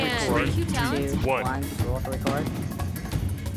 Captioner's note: mixed chatter; voiceover